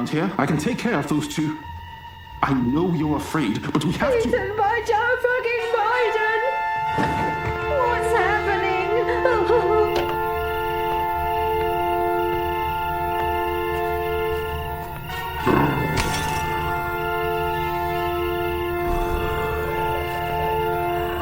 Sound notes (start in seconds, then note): 9.4 sinister music; 15.1 zombie growling; 16.0 glass shattering